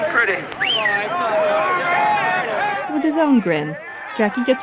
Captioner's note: baseball crowd noise